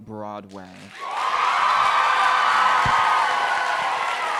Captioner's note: crowd cheering